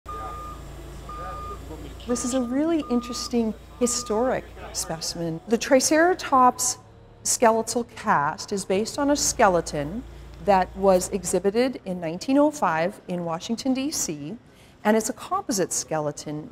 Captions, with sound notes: [beeping] This is a really interesting historic specimen. The Triceratops skeletal cast is based on a skeleton that was exhibited in 1905 in Washington, D.C. And it's a composite skeleton,